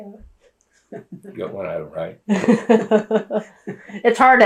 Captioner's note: laughter